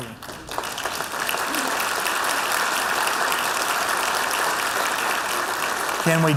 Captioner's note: laughter